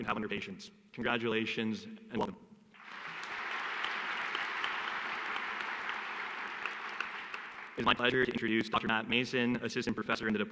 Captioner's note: applause